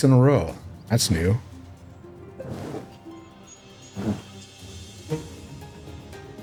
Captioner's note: zipper zipping